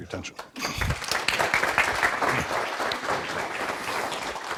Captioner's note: audience applause